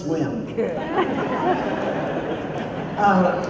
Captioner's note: laughter